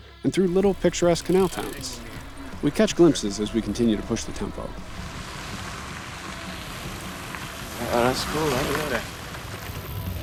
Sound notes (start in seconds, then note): 5.0 wheels clacking